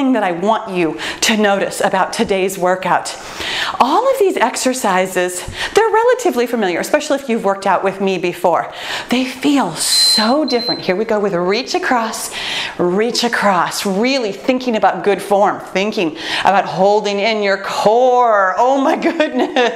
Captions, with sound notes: that I want you to notice about today's workout. All of these exercises, they're relatively familiar. Especially if you've worked out with me before. They feel so different. (timer beeps) Here we go with the Reach Across. Reach across, really thinking about good form. Thinking about holding in your core, Oh my goodness!